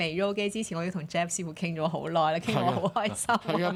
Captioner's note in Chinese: 眾人笑